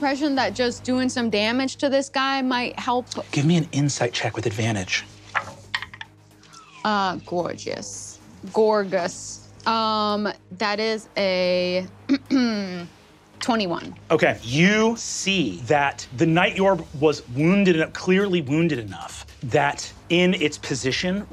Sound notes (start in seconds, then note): 5.2 dice rolling; 11.4 clears throat